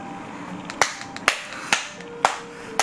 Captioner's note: claps